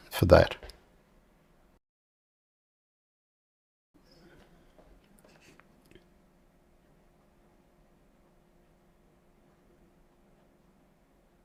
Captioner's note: silence